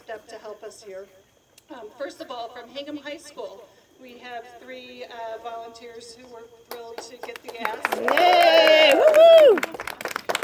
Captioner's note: applause and cheers